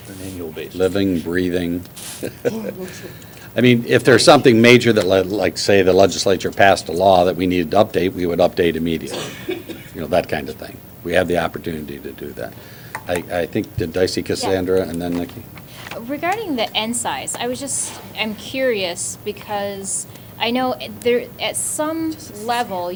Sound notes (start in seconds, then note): 2.2 laughter